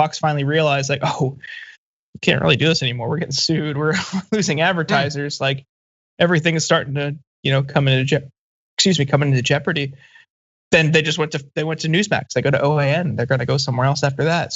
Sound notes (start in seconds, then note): 3.2 laugh